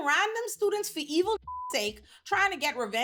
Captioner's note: beep